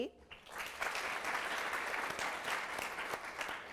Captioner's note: applause